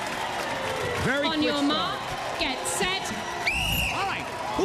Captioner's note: whistle blows